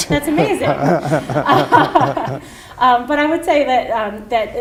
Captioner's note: laughter